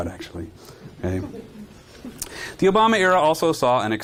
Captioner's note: audience chuckling